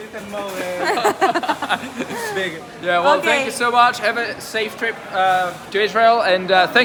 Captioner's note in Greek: γέλια